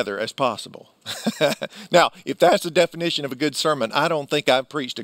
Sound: laughs

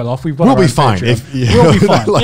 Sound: laugh

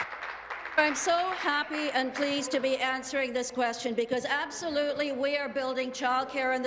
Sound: applause

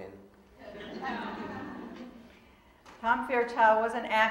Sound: audience laughing

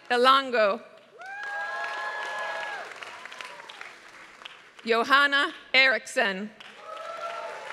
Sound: applause; applause

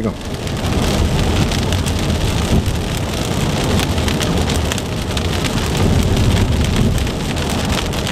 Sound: rain beating on the windshield

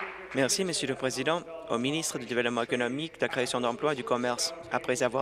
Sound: applause

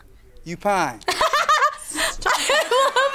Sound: laughs

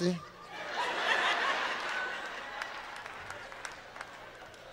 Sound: audience laughs and cheers

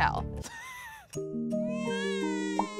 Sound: laughs; baby crying

